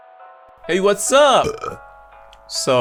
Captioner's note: burps